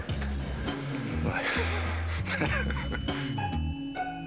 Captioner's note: Rires